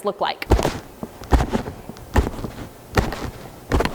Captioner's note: box banging